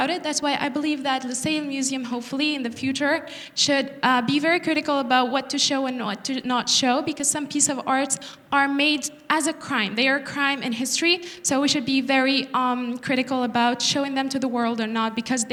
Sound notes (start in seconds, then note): none